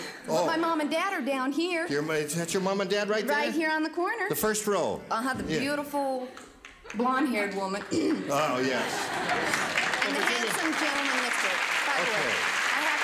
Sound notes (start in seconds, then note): 7.9 clears throat; 8.2 laughter